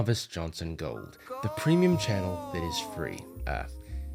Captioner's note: disembodied voice